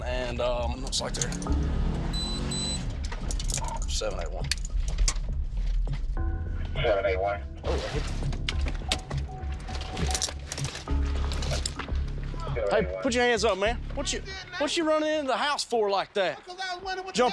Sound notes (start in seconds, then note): 2.1 radio beeps